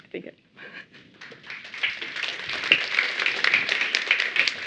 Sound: applause

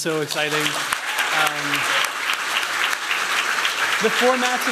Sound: applause

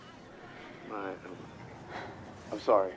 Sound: sighs

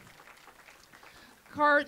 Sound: applause

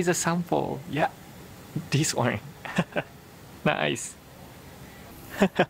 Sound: chuckles

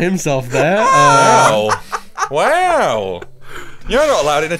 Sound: laughs

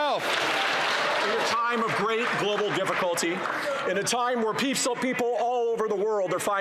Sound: some Applause

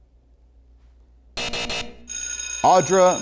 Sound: buzzer

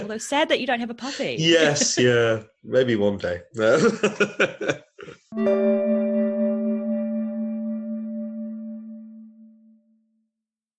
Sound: laughs

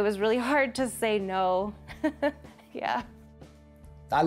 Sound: chuckles

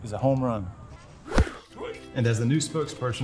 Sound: whooshing

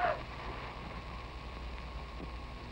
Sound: gasping

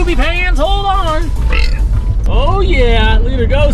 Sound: burps

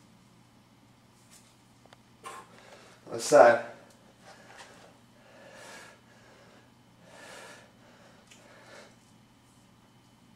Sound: pause

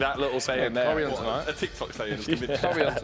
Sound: chattering

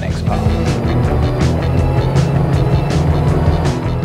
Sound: engine roars

